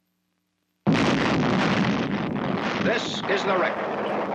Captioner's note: explosion booming